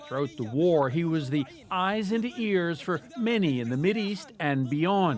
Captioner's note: speaking alternate language